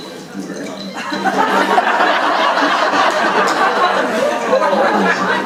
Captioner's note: audience laughing